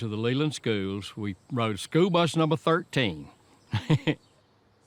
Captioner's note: laughs